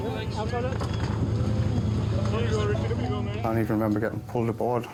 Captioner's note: people chattering